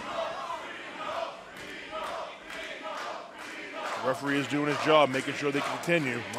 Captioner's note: crowd cheering